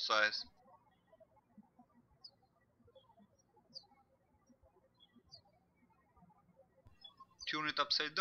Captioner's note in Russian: птички щебечут